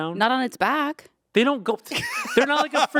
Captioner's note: Anthony laughing